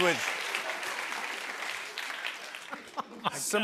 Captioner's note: applause